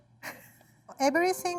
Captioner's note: laughing